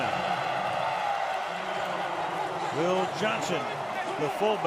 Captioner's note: cheering